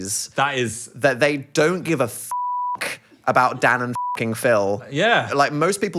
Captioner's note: beep